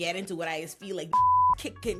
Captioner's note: beep